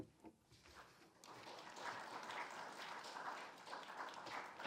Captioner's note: audience clapping